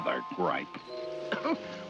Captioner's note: coughing